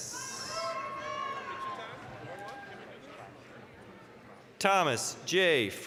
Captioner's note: applause, cheering